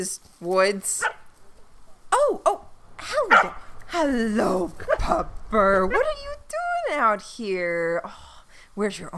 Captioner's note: SFX: Dog barks